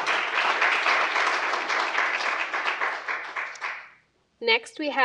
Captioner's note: audience applauds